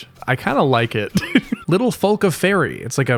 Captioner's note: chuckle